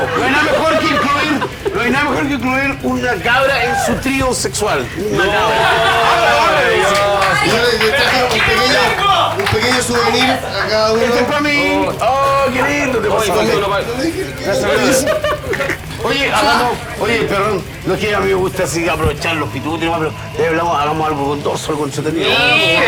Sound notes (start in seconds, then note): 4.5 laughs